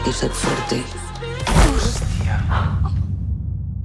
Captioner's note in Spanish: golpe y gemido